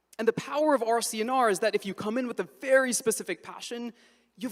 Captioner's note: none